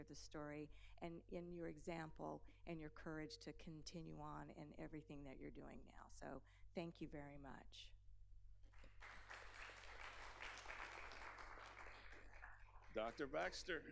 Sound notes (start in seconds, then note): 8.7 applause